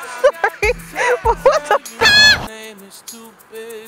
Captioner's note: noot